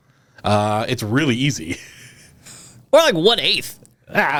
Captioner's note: laughs